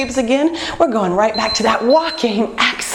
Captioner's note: beeping